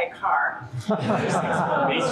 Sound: laughter

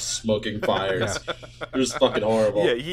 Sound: laughter

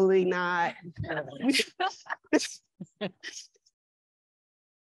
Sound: laughing

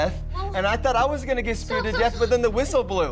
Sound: Cameron panting

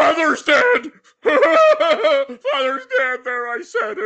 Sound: sobbing

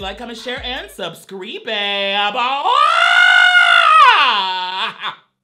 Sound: screams

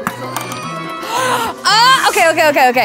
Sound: playful music; Emily gasps

